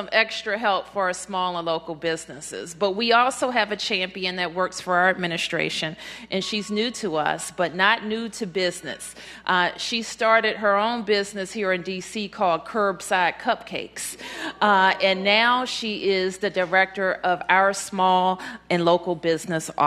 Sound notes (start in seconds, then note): none